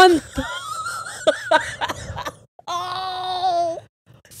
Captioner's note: laughs